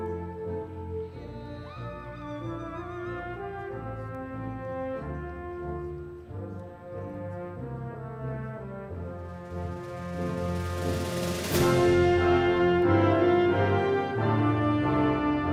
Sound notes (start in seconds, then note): 1.6 audience members exclaiming; 11.5 triumphant music continues